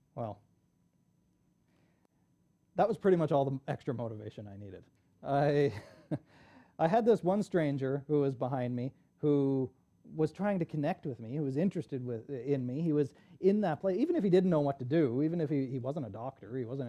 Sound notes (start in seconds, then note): 5.3 laughs